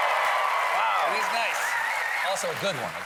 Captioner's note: cheers and applause